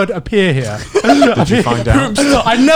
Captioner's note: laughing